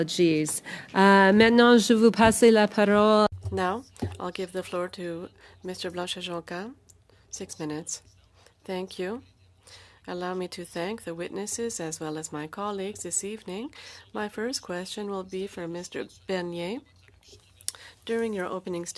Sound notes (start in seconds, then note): 6.3 speaking French; 13.7 speaking French